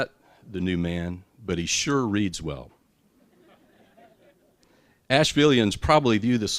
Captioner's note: laughter